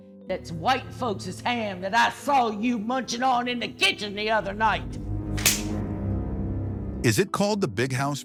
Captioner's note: slap